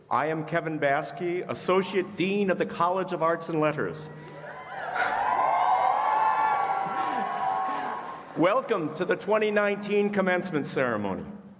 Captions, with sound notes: I am Kevin Baaske, Associate Dean of the College of Arts and Letters [cheering]. Welcome to the 2019 Commencement Ceremony.